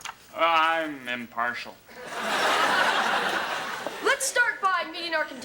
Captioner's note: audience laughs